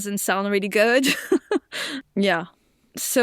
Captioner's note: chuckles